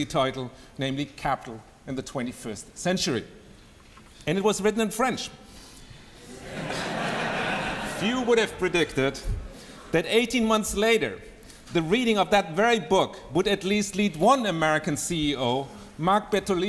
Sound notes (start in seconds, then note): 6.2 laughter